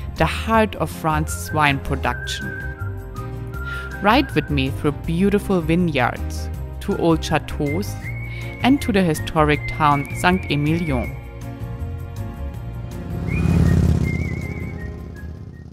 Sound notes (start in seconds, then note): 11.7 upbeat acoustic music; 12.4 motorcycle engine roars